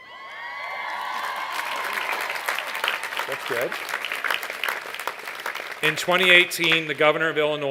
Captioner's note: cheers and applause